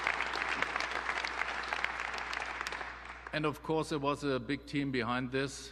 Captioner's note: applause